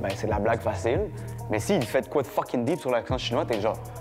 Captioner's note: none